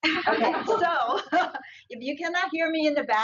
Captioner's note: audience laughs